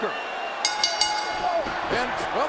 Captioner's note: bell dings